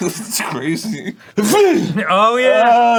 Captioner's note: sneezes in a very real way